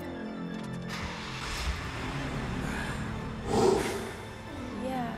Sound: engine revving

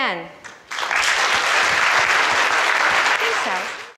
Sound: audience applauds

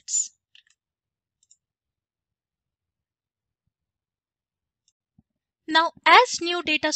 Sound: mouse clicking

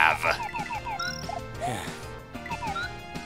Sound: sigh

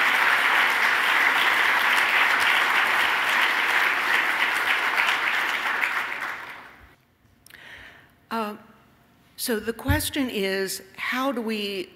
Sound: applause

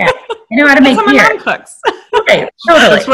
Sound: laughing

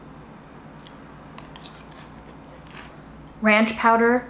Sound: spoon clinking; food crunching

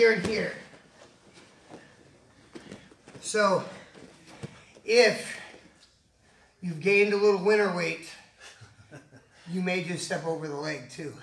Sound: chuckles

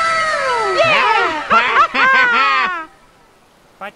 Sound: both laughing

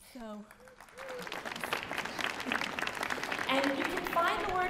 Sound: audience applauding

